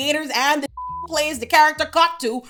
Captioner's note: beep